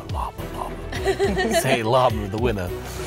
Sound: laughter

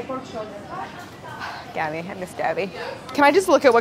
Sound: sigh

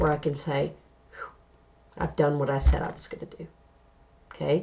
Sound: exhale

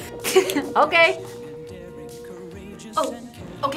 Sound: laughs

